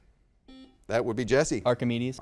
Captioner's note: buzzer dings